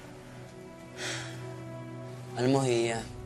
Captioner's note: sighs